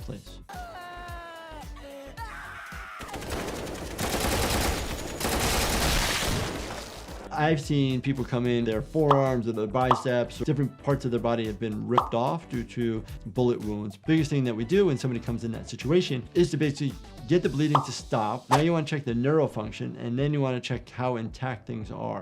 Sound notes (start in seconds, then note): 0.3 character screaming; 3.1 gunshots exploding